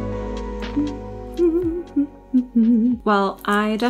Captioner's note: cheerful humming